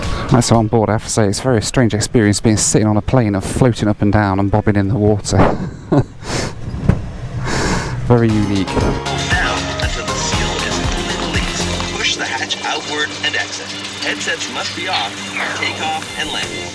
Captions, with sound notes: Right, so on board. I have to say, it's a very strange experience, being sitting on a plane, floating up and down and bobbing in the water. (laughs) Very unique. [PA Announcement] ... push the hatch outward and exit. Headsets must be off during takeoff and landing.